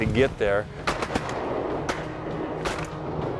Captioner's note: gun shots